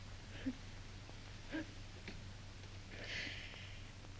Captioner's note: Vincent sobs